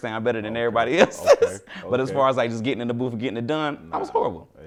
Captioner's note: laughs